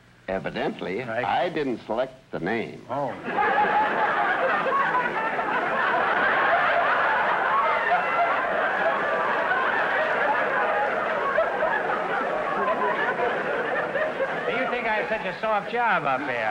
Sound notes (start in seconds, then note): 3.0 audience laughter